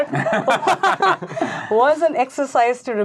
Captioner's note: laughing